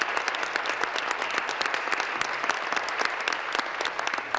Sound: applause

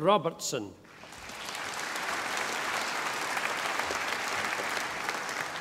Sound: audience applauding

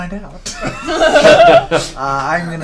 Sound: all laugh

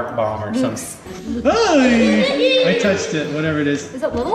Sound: yelling

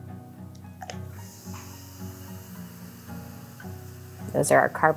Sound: vinegar sizzling

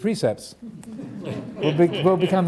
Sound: audience laughing

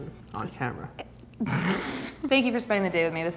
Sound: snorts

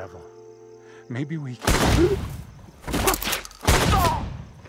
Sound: shotgun blasts; Kevin grunts; Kevin thuds

